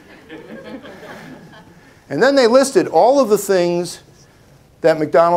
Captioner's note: laughter